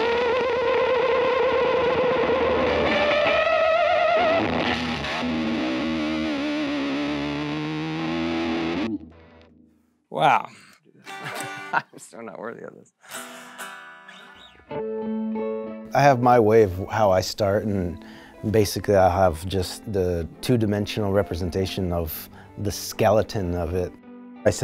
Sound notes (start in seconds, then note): 5.0 powerful electric guitar playing; 11.0 guitarist laughs; 13.1 electric guitar strumming; 14.9 electric guitar playing